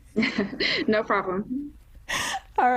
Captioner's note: chuckling